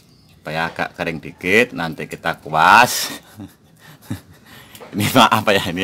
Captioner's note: laughs